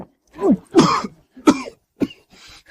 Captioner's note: cough, cough, cough